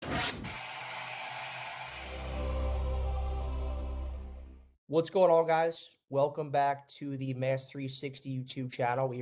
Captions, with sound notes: (static) - What's going on guys. Welcome back to the mass 360 YouTube channel.